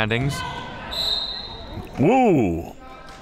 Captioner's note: whistle